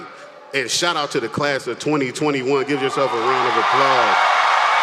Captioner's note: applause